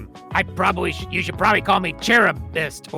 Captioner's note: none